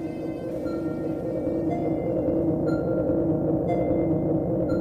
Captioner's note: electronic ticking